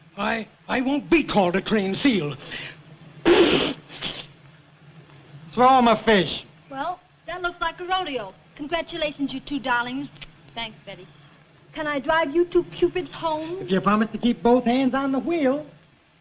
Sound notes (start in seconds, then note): 3.2 blows nose; 10.1 kisses